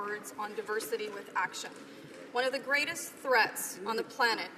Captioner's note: some Applause